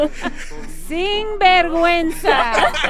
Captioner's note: speaking Spanish; laughter